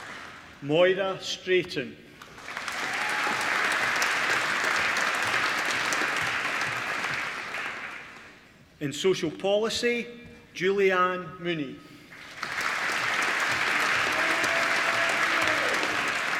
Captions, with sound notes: Moira Straiton (APPLAUSE) in Social Policy Julieann Mooney (APPLAUSE)